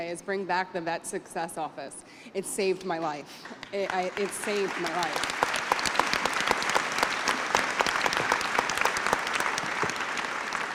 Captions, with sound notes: is bring back the Vet Success Office. It saved my life. It saved my life. [APPLAUSE]